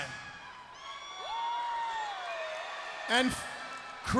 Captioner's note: crowd cheering